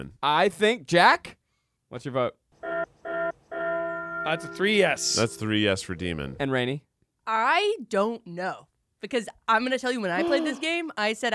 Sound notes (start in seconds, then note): 2.7 bell tolls repeatedly